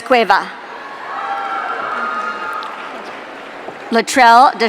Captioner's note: audience cheering